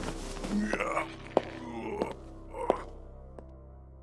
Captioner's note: Ansel's more grunting